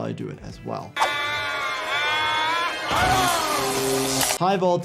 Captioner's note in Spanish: Smithers gritando; zapping eléctrico